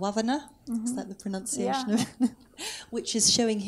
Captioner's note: laughs